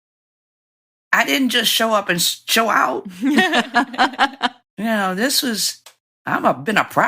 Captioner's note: laughter